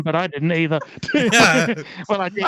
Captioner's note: laughing